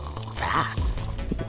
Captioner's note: slurping soup